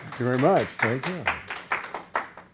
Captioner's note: audience applause